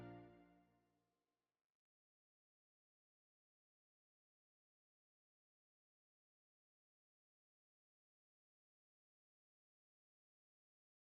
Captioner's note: blank audio